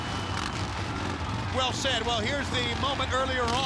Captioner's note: crowd cheering